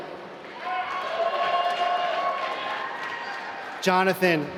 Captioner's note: applause